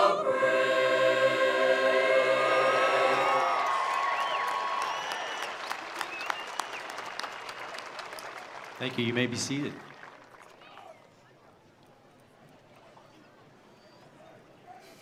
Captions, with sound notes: (attendees applauding) (attendees cheering) Thank you. You may be seated.